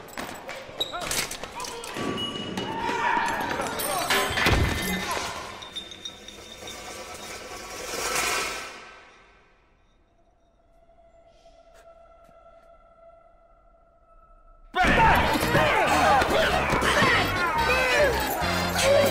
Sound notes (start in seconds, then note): 0.1 echoing sounds; 3.9 plate Sounds